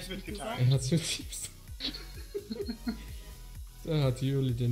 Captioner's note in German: Lachen